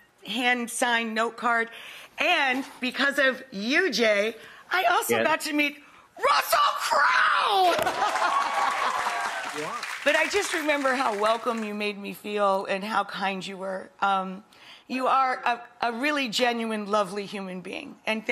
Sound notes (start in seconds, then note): 7.8 audience applauding; 8.1 laughing